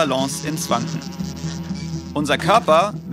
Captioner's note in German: Summen